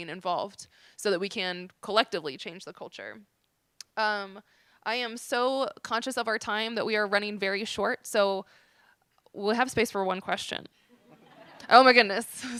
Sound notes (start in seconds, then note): 11.0 laughter